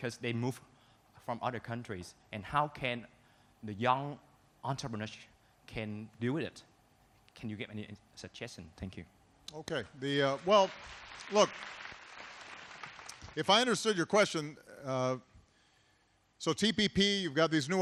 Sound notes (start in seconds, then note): 10.1 applause